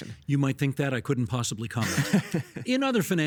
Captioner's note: chuckling